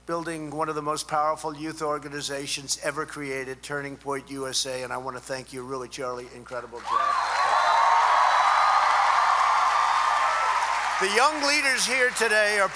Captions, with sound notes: building one of the most powerful youth organizations ever created, Turning Point USA. And I want to thank you, really, Charlie. Incredible job. (applause) The young leaders here today are